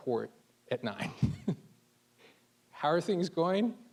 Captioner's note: chuckling